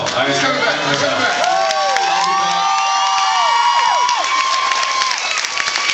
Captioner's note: cheers